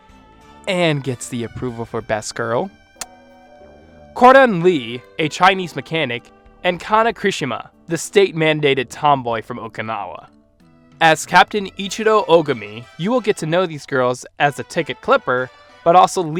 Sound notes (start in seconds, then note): 3.0 kiss